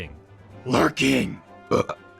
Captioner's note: wet burp